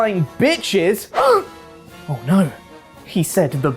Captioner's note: gasp